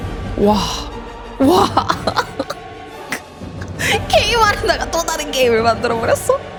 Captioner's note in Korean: 웃음